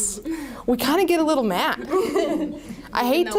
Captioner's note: laughter